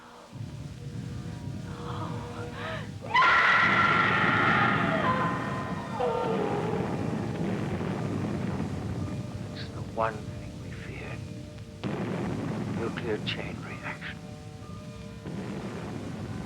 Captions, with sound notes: No, no. (SCREAMS) No! [explosions] It's the one thing we feared, nuclear chain reaction. [explosions]